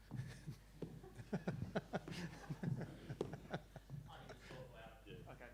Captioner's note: audience and colleague laughs